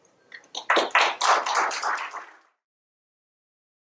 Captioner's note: crowd applauding